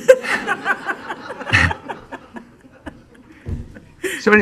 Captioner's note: laughing